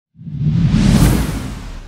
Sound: swooshy noise

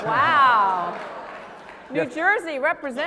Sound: laugh

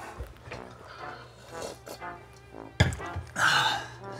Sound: slurps; sighs

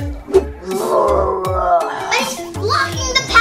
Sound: zombie growling

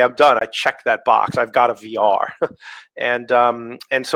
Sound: chuckles

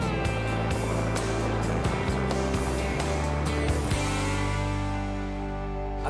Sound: helicopter sounds

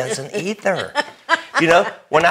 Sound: laughing

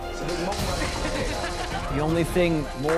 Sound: laughter

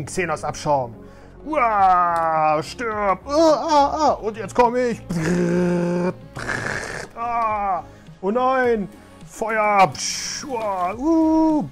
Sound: obnoxious Fighting Noises

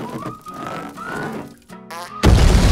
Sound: farting

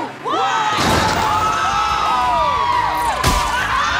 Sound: screaming

